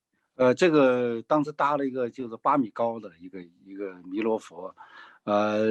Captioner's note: speaking in foreign language